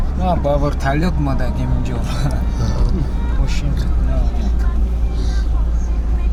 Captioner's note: speaks Tajik